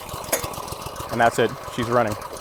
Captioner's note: engine starts